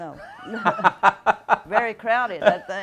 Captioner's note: laughing